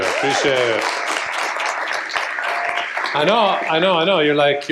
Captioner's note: applause